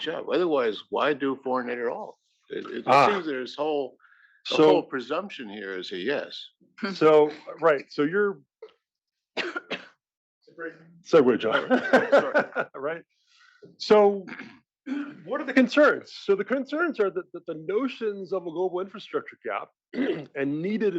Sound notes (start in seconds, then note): 9.4 cough; 11.4 laugh; 19.9 cough